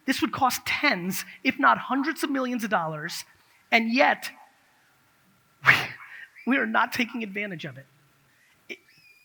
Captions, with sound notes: This would cost tens, if not hundreds of millions of dollars, and yet (laughs) we are not taking advantage of it.